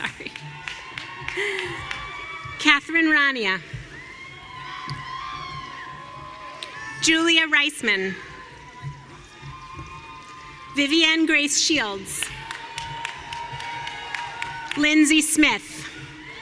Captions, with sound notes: Sorry. (chuckles) Catherine Rania. (audience cheering) Julia Reisman. (audience cheering) Vivian Grace Shields. (audience cheering) Lindsey Smith.